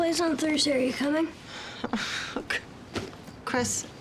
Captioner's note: sighs